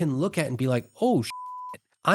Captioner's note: beep